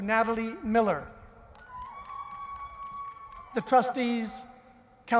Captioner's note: one person cheers